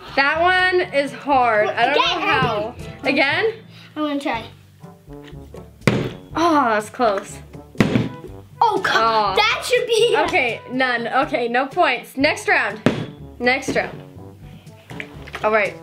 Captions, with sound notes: - That one is hard, I don't know how. - Again, again. - Again? - I want to try. (bottle landing) - Oh, I was close. (bottle landing) - Oh, that should be -- - Okay, none, okay, no points. (bottle landing) Next round, next round, alright.